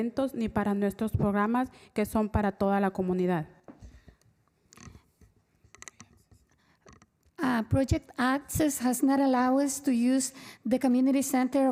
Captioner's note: spanish